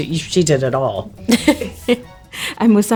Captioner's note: laughs